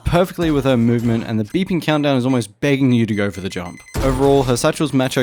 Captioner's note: beep beep beep beep beep beep beep